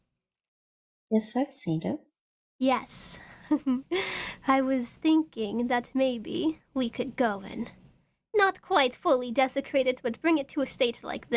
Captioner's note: giggles